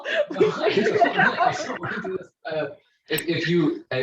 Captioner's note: laughing